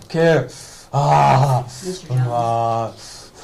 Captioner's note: growling